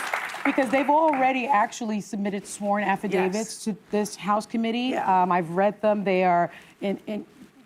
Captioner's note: applause